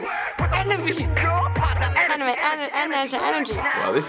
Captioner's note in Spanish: tartamudea